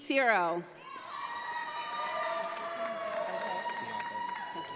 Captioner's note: audience applauds